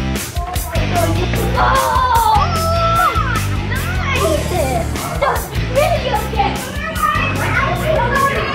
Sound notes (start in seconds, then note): 1.6 excited squeals